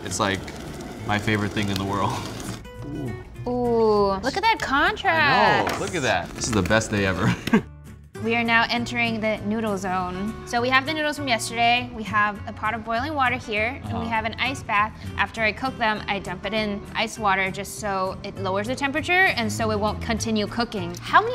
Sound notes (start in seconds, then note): 7.2 chuckles